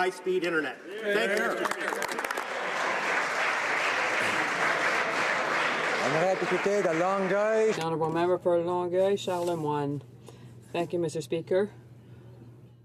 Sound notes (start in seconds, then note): 5.4 applause